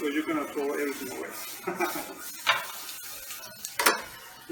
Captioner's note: laughter